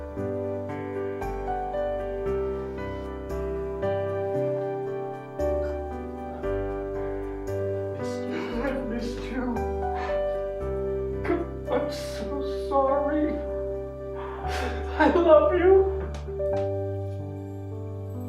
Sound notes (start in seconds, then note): 14.4 jim crying